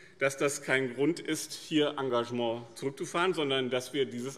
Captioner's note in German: none